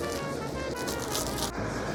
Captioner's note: plastic crinkles